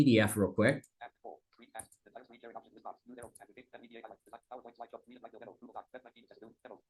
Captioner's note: screen reader narrating extremely rapidly